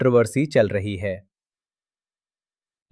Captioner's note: pause